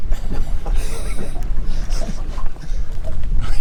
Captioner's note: laughing